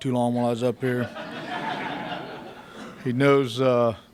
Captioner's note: laughter